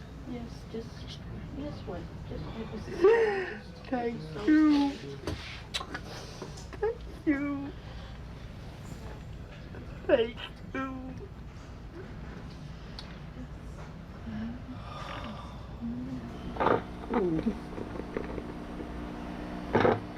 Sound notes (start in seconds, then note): 3.0 sobbing; 5.6 kisses; 16.5 ragged, Wet Breathing